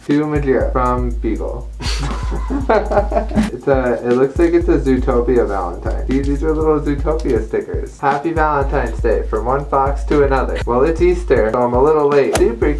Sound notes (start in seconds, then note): 1.8 laughing